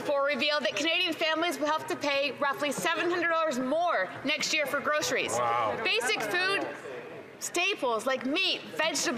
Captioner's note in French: voix de l'interprète